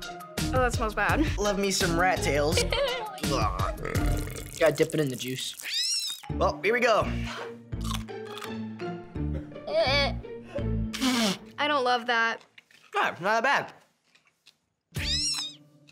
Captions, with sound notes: Oh, that smells bad. Love me some rat tails. - Eww. - Ahh. Gotta dip it in the juice. Well, here we go. [crunching] Eww! I don't love that. Oh, it's not that bad. [rat squealing]